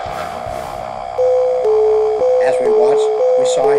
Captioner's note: low Growling sound with slow Alarm Bells